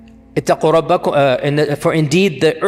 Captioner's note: Arabic